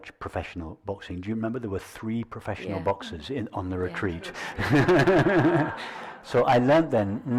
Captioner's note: nevetés